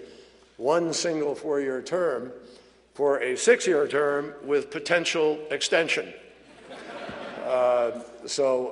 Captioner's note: laughter